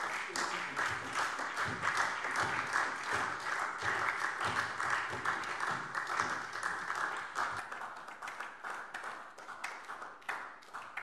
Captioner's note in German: Beifall SPD und Freie Demokraten